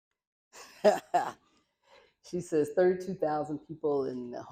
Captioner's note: laughter